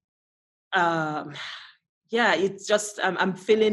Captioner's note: sighs